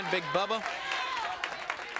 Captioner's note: crowd cheering